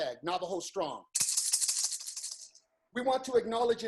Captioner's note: rattles